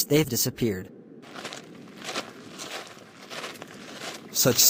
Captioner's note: footsteps